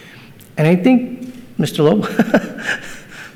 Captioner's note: laughs